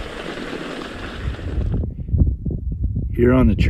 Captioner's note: air whooshing